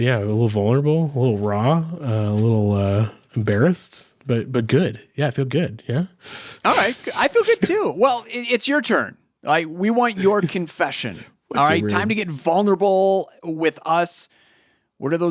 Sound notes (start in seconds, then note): 10.2 chuckles